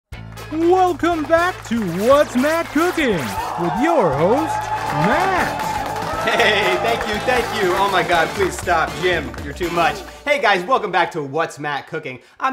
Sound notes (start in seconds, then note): 3.3 applause; 4.0 audience cheers